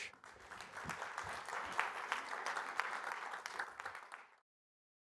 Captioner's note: applause